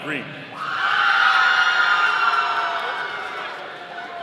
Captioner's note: audience cheering